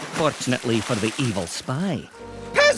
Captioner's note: splashing